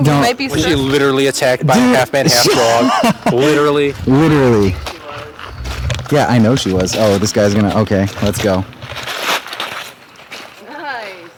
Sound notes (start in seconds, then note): 1.3 laughing; 3.3 sarcastic